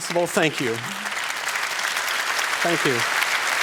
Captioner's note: applause